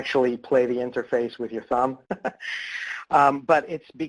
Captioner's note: laughs